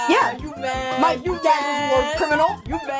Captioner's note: laughing hysterically